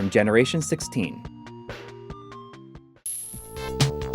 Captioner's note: game audio